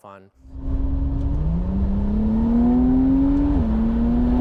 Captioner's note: engine roaring